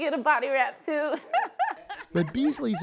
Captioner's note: laughter